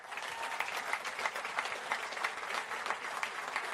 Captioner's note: applause